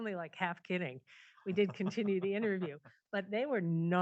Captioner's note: laughs